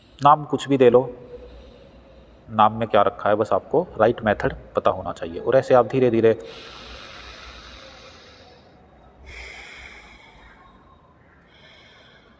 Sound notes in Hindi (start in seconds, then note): 9.7 गहरी सांस लेने की आवाज़